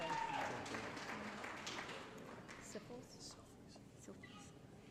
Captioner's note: applause